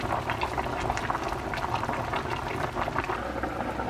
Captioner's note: boiling hard